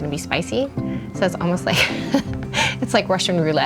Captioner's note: laughs